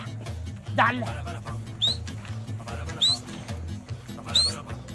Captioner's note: man whistling